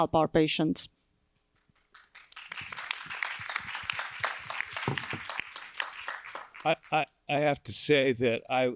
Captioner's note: applause